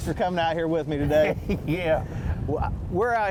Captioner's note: laughs